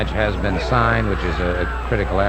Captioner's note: people chattering distantly; wrestlers exclaiming